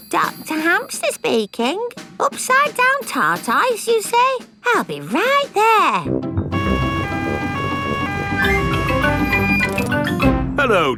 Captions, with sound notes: Hello, Doctor Hamster speaking. Upside down tortoise you say? I'll be right there! (SIREN WAILING)